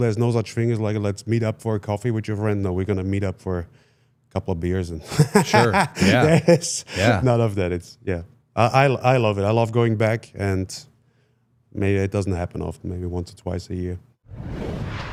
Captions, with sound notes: There's no such thing as like, let's meet up for a coffee with your friend. No, we're gonna meet up for a couple of beers and (laughs) there's none of that, it's, yeah. I love it. I love going back and maybe it doesn't happen often. Maybe once or twice a year.